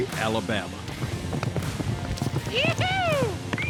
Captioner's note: hooves beating